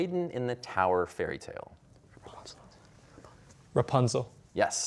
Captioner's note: whispering